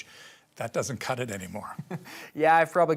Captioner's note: laughs